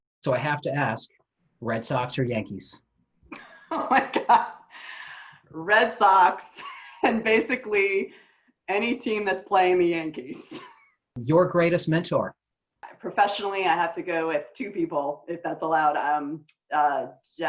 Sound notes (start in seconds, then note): 3.4 laughs